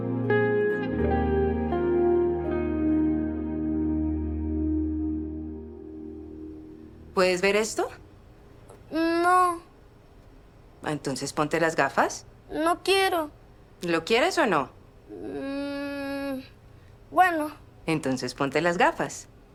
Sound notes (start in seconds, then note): 15.1 child hums thoughtfully